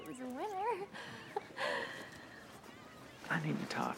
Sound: chuckles

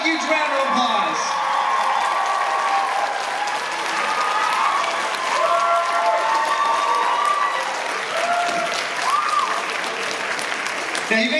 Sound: cheers

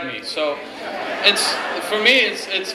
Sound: laughing

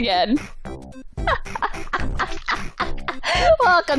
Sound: laughs

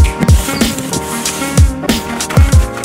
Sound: chime; light scraping; paper crinkling

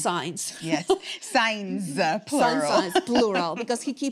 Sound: laughs

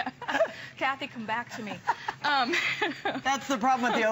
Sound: laughter

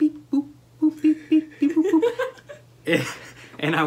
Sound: laughter

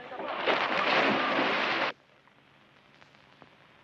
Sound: water splashing

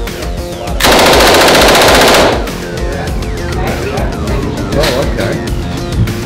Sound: gun firing rapidly in long burst

